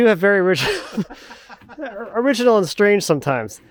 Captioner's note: both laughing